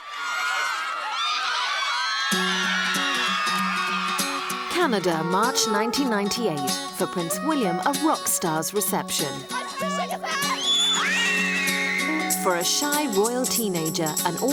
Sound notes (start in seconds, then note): 0.0 girls screaming; 0.1 gentle music; 9.4 girls screaming